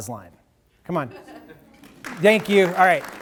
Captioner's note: audience laughing; audience applauding